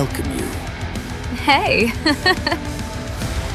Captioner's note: laughs